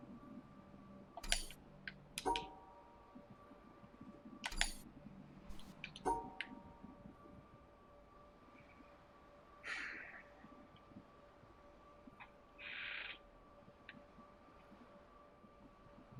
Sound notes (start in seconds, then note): 9.5 sighs